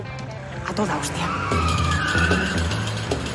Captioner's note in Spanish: Sonido derrape